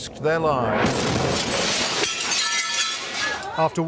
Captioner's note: explosion